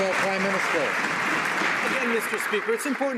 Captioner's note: some Applause